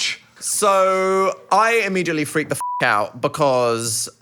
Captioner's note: beep